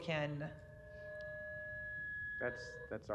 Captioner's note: sound system noise